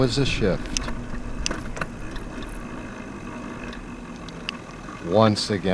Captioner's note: click, click...click